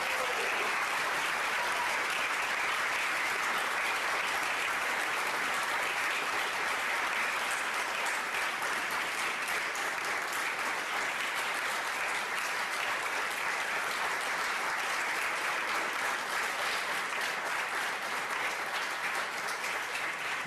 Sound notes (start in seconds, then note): 1.3 more loud applause; 6.9 audience still applauding; 12.0 yep. . .They are still applauding; 16.9 applause finally ends